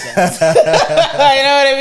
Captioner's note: laughing